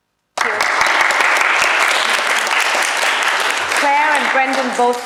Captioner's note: audience applause